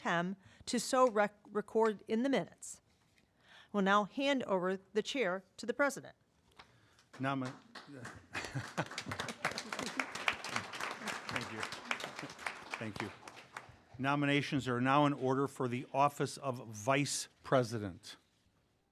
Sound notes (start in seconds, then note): 7.0 applause